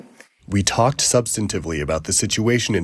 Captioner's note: through translator